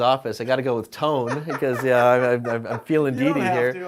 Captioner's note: laughter